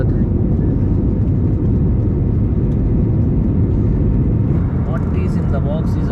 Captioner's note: wind gushing